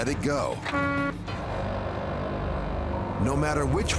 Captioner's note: horn honking